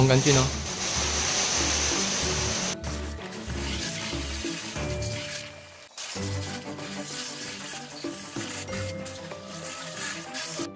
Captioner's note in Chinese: 水柱冲车子声